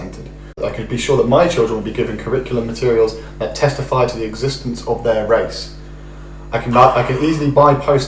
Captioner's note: sighs